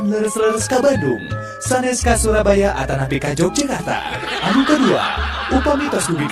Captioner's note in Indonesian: tertawa